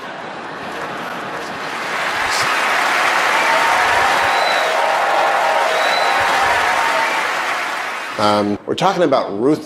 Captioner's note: cheers